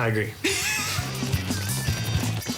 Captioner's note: laughs